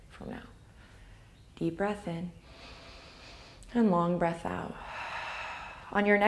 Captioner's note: inhale; exhale